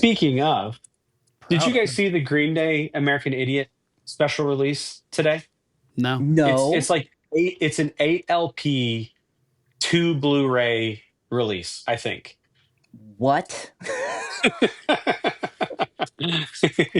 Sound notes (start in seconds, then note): 16.0 laughter